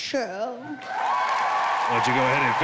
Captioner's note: crowd cheering